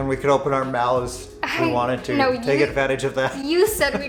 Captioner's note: laughter